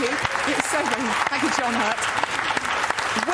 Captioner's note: round of applause led by john hurt